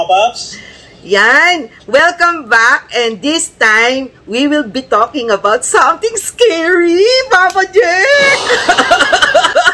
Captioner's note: laughter